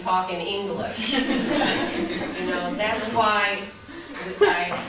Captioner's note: laughter